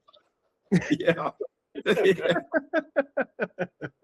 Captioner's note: laughing